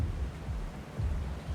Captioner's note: water sloshing